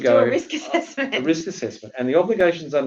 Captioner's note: laughs